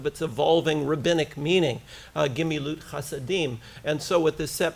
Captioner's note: foreign language